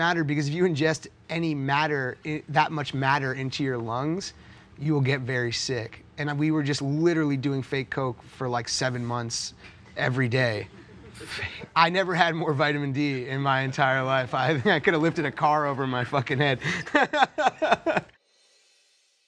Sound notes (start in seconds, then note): 10.7 gasping laughter; 15.6 both laughing